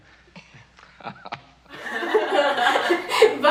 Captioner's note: both laughing